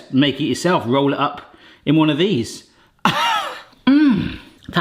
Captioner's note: laughs